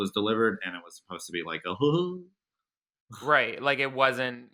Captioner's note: chuckles at offensive joke